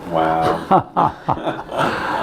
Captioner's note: laughs